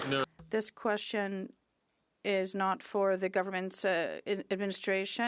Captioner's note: some Applause